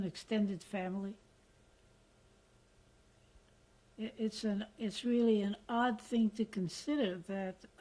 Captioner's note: pauses for 3 seconds